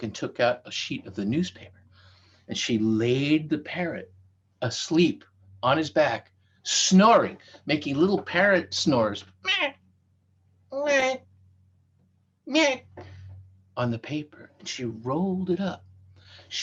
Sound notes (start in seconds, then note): 9.4 making parrot sounds